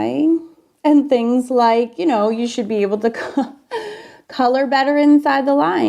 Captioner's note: laughs